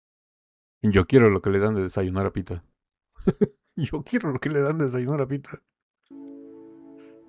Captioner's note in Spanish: risas